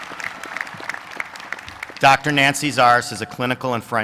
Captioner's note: applause